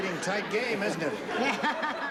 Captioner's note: laughs